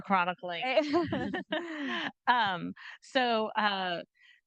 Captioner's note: group chuckling